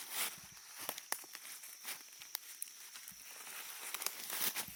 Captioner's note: branches cracking